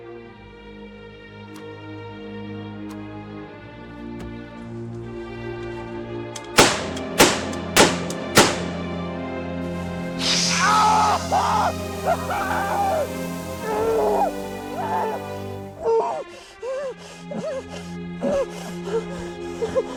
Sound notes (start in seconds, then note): 6.5 gunshots; 9.7 flesh burning; 10.2 Jack screams; 16.8 heavy breathing